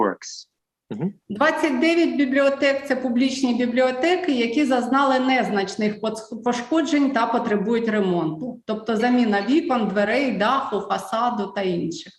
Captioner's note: foreign Language